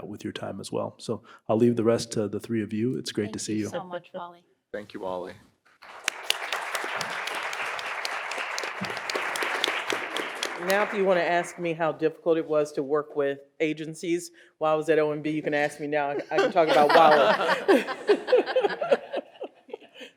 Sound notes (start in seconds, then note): 5.8 audience applauding; 16.2 audience laughing